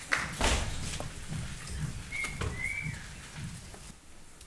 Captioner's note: feet tapping